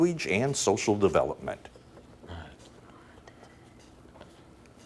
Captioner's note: whispering